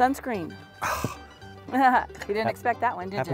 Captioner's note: laughter